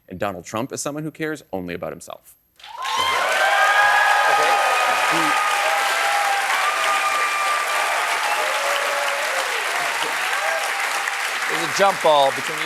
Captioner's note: cheers and applause